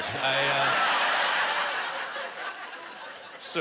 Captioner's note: laughing and applause